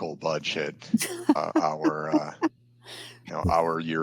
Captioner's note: laughs